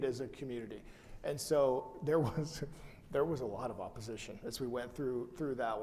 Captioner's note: chuckles